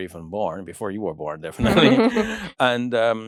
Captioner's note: chuckles